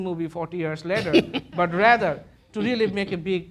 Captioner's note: laughter